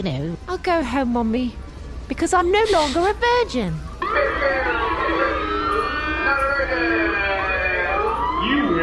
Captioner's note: alarm sounds